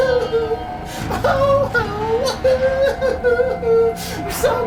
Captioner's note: bizarre crying